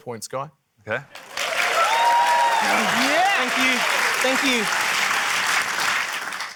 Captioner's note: cheering, applause